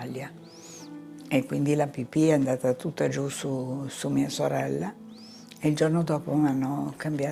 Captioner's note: continues speaking in foreign language